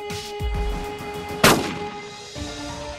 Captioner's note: Gun shot